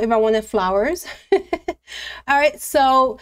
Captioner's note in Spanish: risas